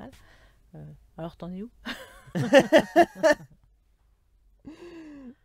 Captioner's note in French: Rires